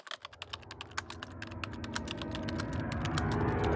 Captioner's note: typing